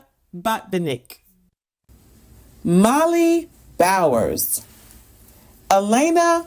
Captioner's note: none